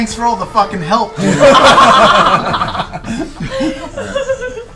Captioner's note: all laugh